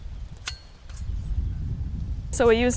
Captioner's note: spade whirring